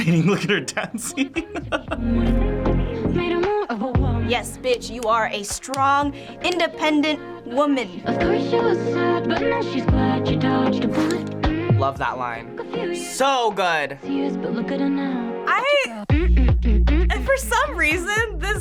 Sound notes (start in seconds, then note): 0.0 laughs; 11.0 makes whooshing noise